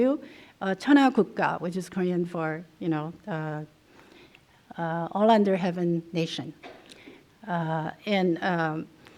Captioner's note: korean